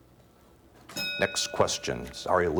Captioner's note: ding